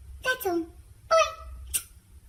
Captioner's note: smooch